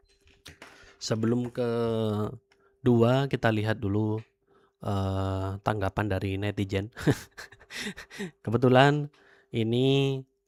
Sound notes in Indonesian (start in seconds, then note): 7.4 tertawa